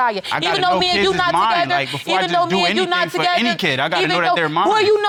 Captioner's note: both arguing